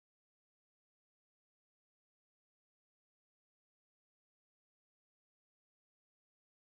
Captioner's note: none